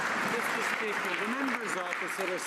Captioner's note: some Applause